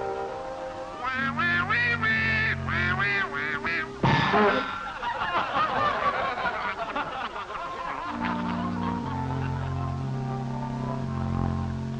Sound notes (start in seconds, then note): 4.0 Donald bangs his head, audience laughs